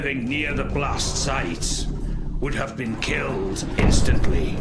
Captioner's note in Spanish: Explosión